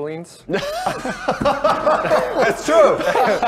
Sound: everyone laughs

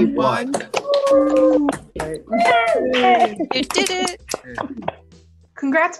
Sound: applause and cheering

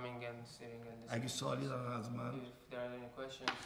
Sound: speaking in farsi

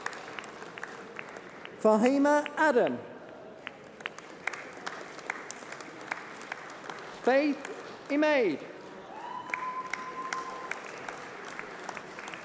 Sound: applause

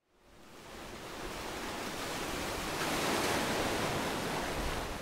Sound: waves rushing onto beach

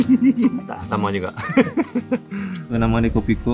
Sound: laugh

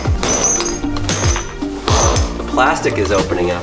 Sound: banging; upbeat music

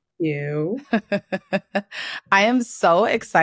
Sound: laughs

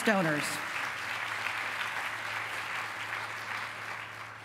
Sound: applause

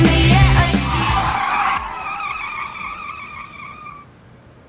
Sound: tires screeching

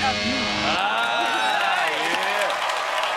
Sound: cheers and applause

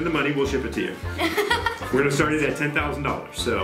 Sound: laughing

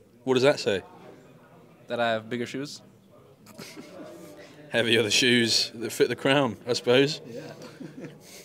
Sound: laughs

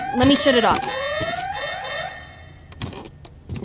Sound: ringing continues

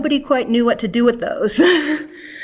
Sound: laughs

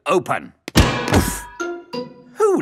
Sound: thuds

